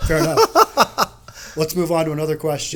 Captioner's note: laughing